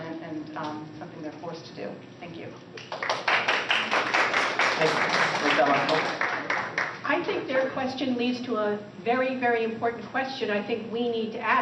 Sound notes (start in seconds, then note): 2.8 applause